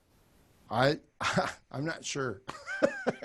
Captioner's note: laugh